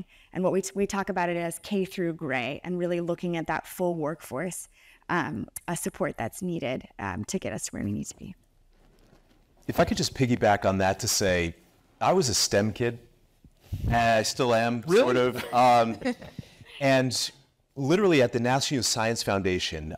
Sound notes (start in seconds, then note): 15.0 group laughs